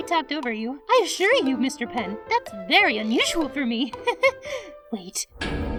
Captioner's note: laughs